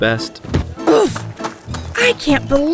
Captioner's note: footsteps running; body falling